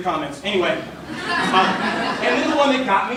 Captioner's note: laughter